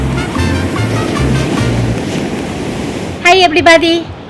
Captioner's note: waves crashing